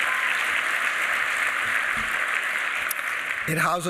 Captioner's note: applause